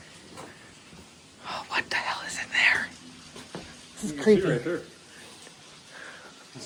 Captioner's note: wispers